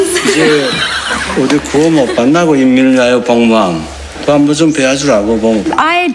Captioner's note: foreign Language